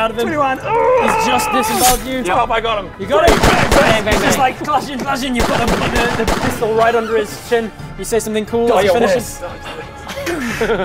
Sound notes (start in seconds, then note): 3.4 bang bang bang; 6.2 bang bang bang bang